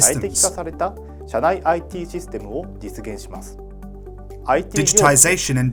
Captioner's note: speaks in Japanese